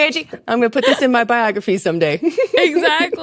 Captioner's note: laughs